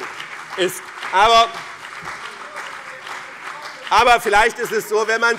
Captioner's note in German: Beifall